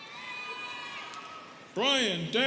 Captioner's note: students cheering